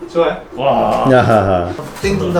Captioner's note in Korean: 감탄